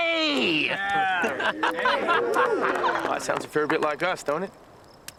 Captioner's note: men cheer